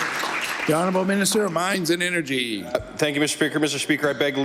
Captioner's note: applause